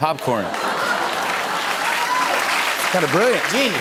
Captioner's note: cheers and applause